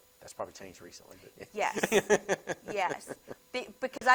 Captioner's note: laughs